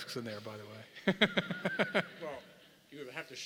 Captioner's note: laugh